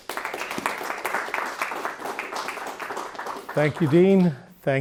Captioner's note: audience applauding